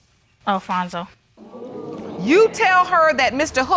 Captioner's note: audience murmuring